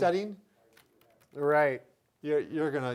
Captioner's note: keyboard clicking lightly